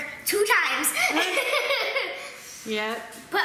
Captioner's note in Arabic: ضحك